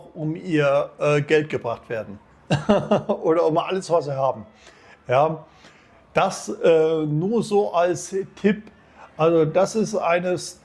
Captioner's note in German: gelächter